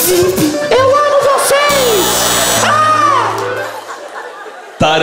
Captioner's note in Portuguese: campainha